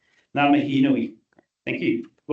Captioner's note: speaking te reo Māori